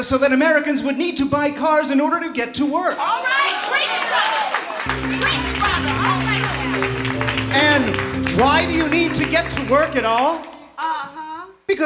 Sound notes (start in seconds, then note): 3.3 applause coming from Audience